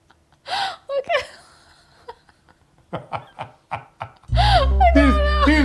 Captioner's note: both laughing